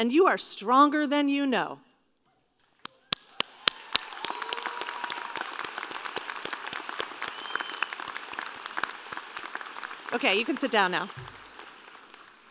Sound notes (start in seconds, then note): 3.1 applause and Cheering